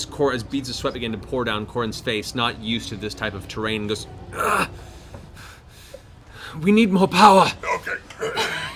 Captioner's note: gasps